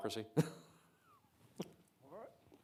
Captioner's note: Secretary Azar chuckling